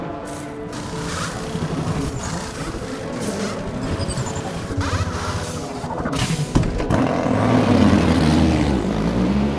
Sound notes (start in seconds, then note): 0.3 pit tool noises